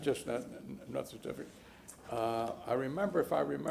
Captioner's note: laughter